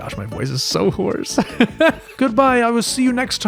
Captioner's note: laugh